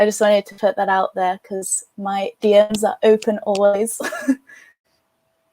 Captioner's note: chuckles